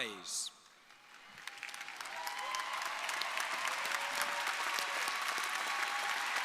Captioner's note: crowd applauding; crowd cheering